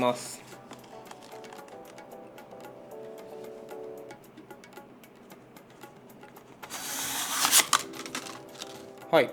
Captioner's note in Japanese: 紙の包みを切る音